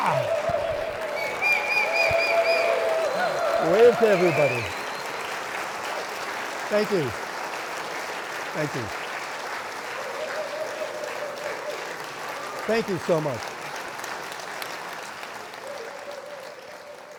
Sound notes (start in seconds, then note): 0.3 playfully exclaims; 2.2 audience cheering; 9.4 audience cheering